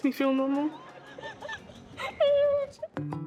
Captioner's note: both laughing